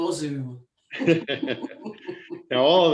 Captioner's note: laughing